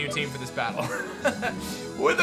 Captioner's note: laughs